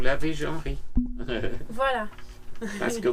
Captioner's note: laughs